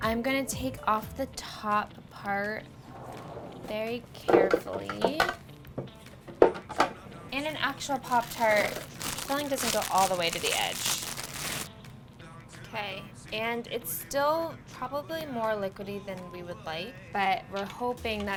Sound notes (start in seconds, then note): 10.9 paper crinkling